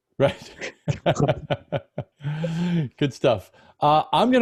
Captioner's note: laughs